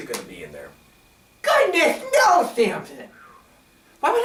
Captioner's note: exhales in relief